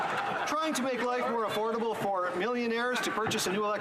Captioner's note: some Laughter